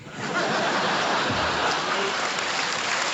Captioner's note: laughter; applause